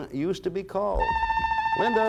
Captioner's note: buzzer sounds